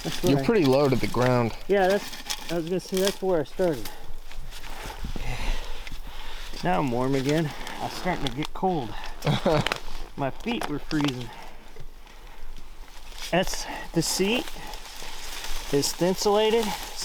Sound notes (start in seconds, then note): 9.2 laughs